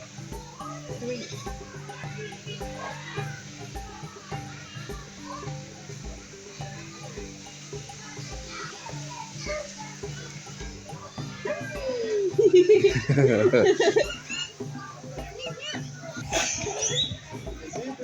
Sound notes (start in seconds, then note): 1.7 birds chirping, people chattering, meerkat hums; 12.8 laugh; 14.5 birds chirping, people chattering